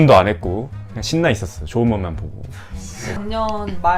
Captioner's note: laughing